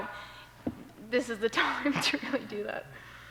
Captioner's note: laughter